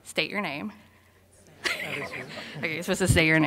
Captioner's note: audience talking